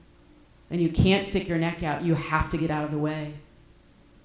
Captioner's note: none